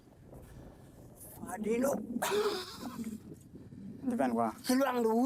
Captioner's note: speaking foreign language